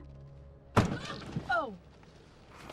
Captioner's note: pounding